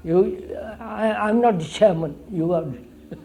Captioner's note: laughs